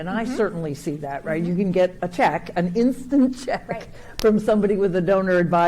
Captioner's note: chuckling